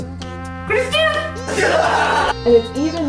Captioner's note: laughs